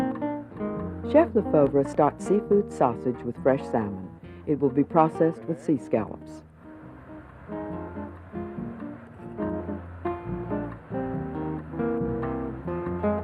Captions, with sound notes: - [Voiceover] Chef Lefeuvre starts seafood sausage with fresh salmon. It will be processed with sea scallops. (gentle music)